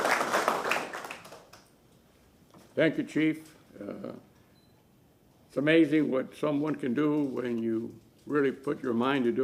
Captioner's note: applause